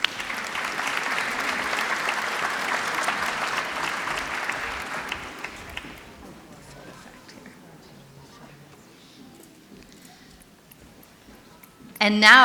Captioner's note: applause